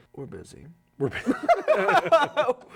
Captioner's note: laughing